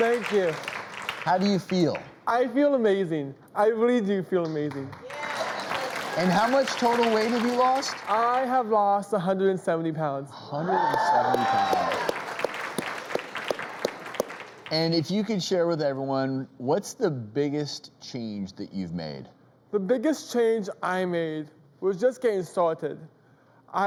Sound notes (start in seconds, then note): 4.4 clapping; 10.6 cheering